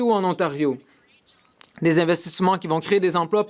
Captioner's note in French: voix de l'interprète